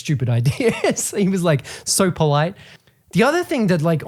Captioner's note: laughs